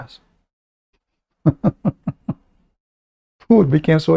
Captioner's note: Ketawa